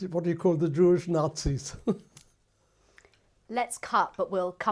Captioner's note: laughs